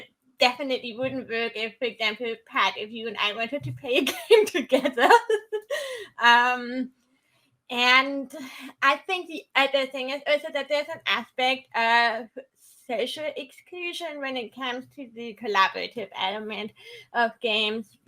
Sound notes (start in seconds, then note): 5.3 laughing